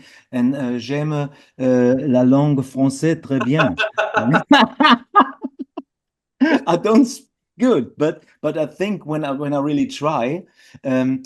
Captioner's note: French speaking